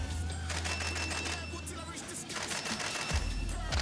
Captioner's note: camera clicking; hip hop music